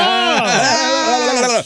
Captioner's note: all laughing